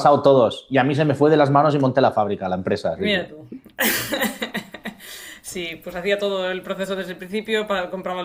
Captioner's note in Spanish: risas